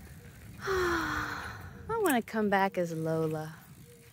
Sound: existential sigh

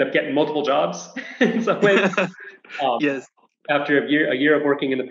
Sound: laughs

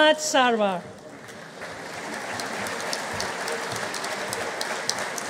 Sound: audience applauding

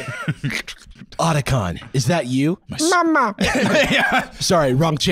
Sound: laughing

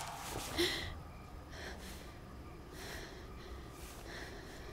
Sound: branch snap

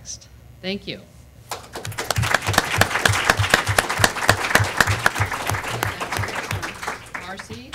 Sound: applause

